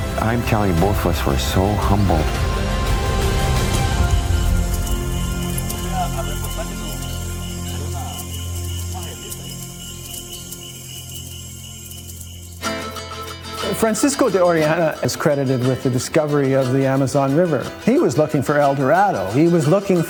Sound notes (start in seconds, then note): 6.0 Indigenous people talking, frog chirps